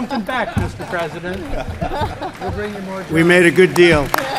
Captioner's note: laughter